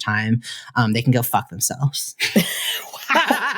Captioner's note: laughter